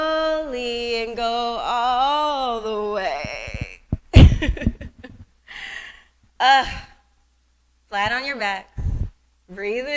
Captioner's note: laughter